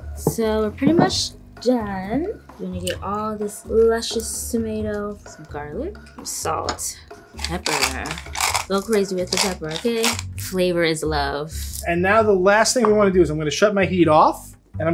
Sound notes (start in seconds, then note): 7.3 pepper grinding